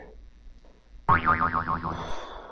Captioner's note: boing